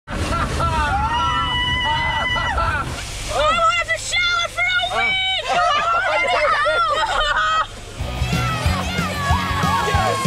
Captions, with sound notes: (swooshing sound) - I won't have to shower for a week! - You already don't! (cheering)